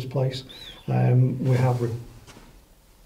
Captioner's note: faint whistling